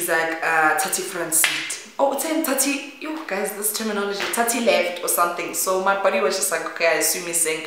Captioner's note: again in slang